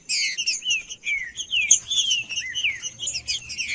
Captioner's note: trinca ferro cantando